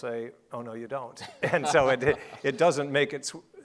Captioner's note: laughing